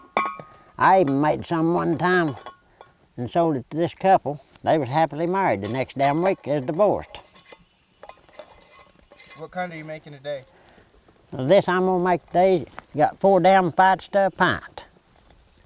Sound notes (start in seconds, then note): 8.9 voiceover